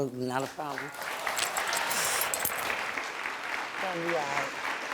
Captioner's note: crowd cheering